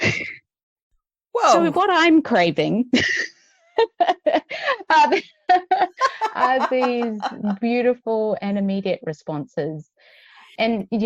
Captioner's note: laughs